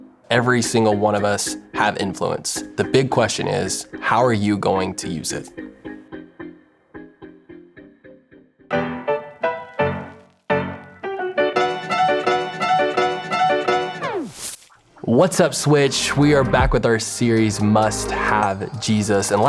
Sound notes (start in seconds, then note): 9.2 upbeat music; 14.1 graphics swish; 16.6 soft electronic music